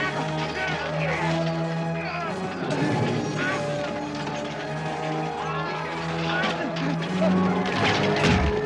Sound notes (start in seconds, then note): 2.1 struggling